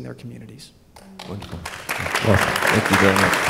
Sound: applause

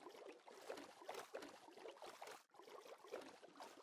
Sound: splashing

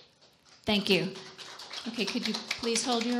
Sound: audience applause

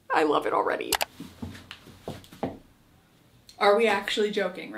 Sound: mouse clicks

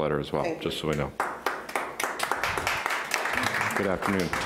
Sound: applauding

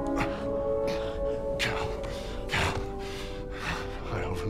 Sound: labored breathing; breathless

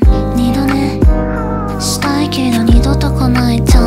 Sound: yawn

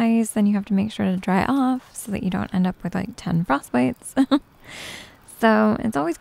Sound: giggles from experience

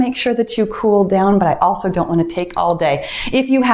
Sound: timer beeps

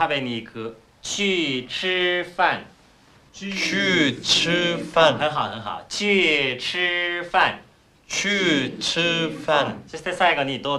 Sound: speaking Chinese

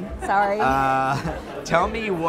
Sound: laughs

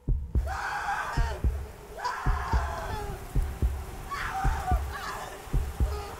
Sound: loud heartbeat continues; woman screaming louder

